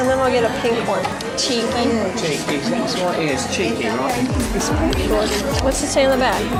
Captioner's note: british accent